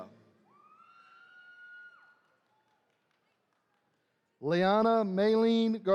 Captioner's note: attendees cheering